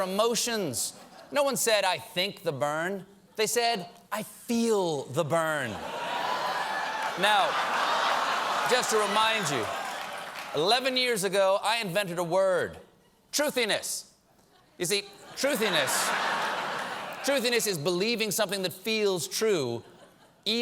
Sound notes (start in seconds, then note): 5.8 laughter